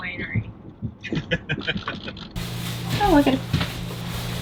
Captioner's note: chuckles